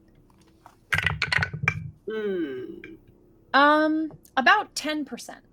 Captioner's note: dice rolling